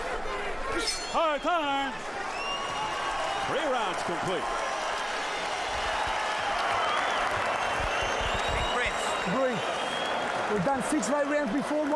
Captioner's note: applause